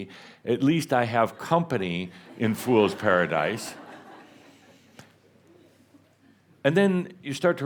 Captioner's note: more chuckles